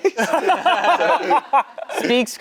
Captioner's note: everyone laughing